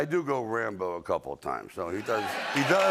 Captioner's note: cheering and applause